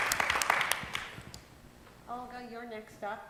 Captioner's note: applause